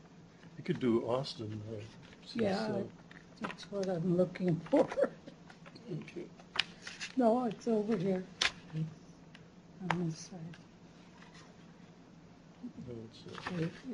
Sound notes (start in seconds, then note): 4.7 chuckles